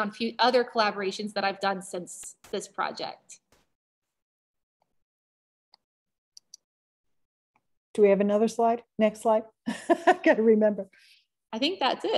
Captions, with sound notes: few other collaborations that I've done since this project. - Do we have another next slide? (laughter) I can't remember. - I think that's it.